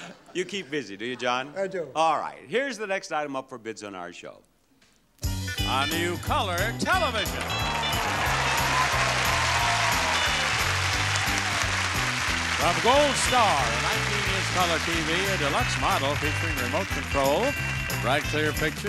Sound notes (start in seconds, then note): 7.7 audience applauding; 9.6 fun music